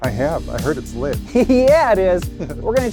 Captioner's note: laughs